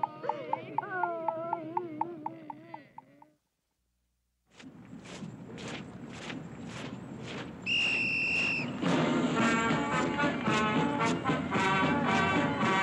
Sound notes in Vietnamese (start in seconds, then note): 8.7 Tiếng còi